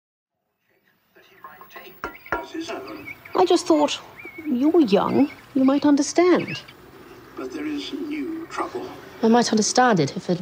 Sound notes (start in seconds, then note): 1.6 metal clanking; 2.8 birds chirping